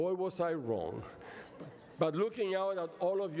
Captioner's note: laughter